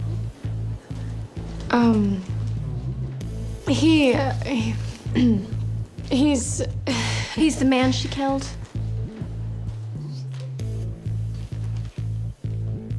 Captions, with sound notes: (stammers) - He's the man she killed.